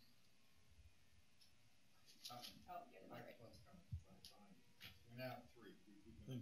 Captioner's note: indistinct chatter